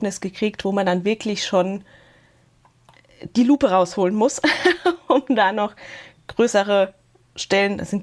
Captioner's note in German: gelächter